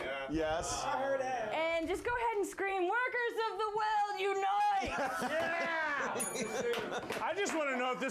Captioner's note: bell rings